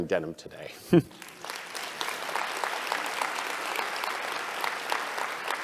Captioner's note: applause